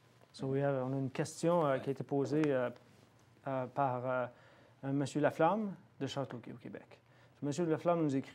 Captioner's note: speaking French